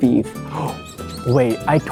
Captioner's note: gasp